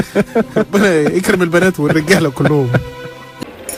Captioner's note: laugh!